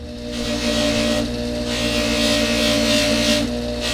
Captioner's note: buffing wheel whirring